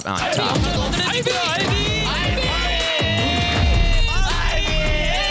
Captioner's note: foreign language